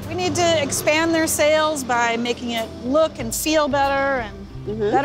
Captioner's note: none